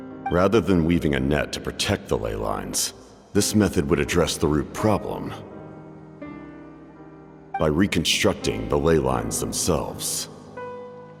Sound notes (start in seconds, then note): none